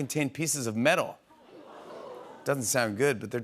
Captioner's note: audience groans